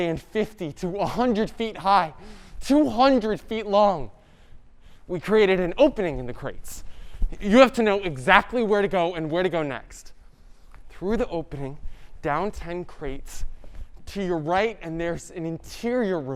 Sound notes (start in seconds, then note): none